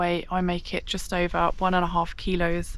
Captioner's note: none